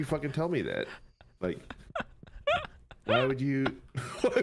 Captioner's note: keeps wheezing